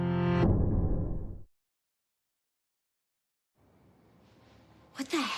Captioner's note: none